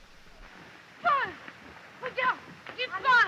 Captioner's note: speaking french